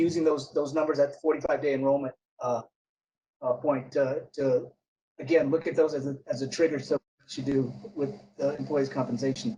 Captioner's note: audio Glitch